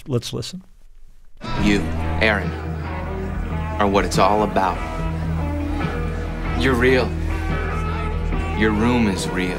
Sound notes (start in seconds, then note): 0.0 soundbite of film, "almost famous"